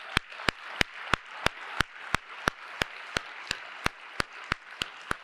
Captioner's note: applause